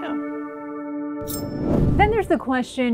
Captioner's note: screen whooshing